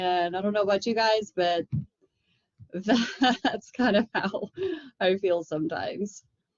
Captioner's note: laughter